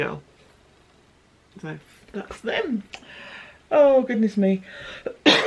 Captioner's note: cough